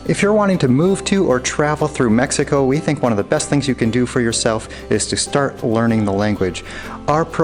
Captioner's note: none